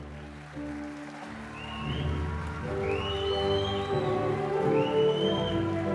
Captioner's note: audience cheering and applauding